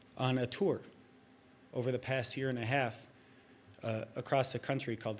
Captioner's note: none